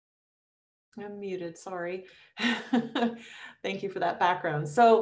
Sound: chuckles

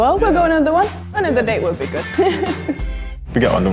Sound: laughs

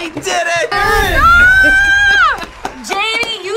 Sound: screams

